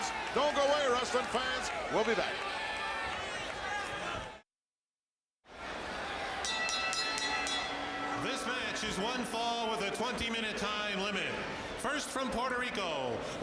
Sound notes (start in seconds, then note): 6.4 bell ringing